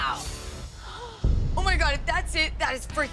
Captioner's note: gasping